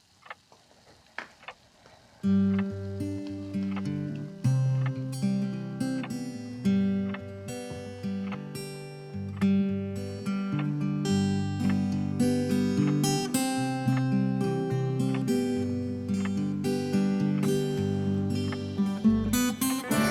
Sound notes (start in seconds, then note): 2.8 gentle music; 7.5 clock continues ticking; 16.1 clock continues ticking